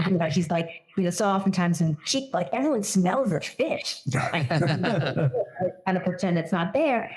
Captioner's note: laugh